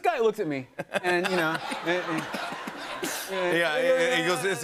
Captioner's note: laughter